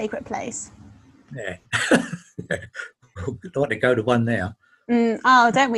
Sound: laughing

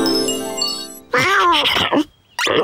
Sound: meowing

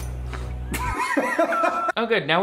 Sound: Shane laughing

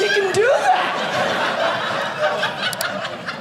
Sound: audience laughing

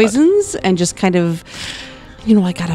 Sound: laughing

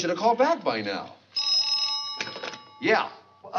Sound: phone rings

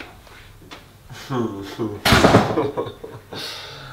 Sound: laughs

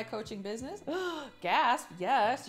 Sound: gasping

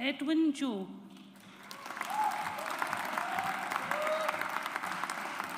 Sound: audience applauds

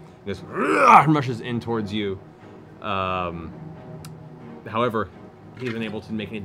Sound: grunts

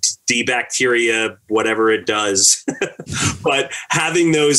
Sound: laughs

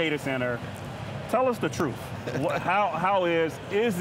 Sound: laughing

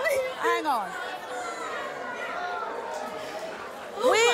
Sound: audience murmurs

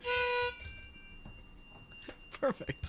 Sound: ding

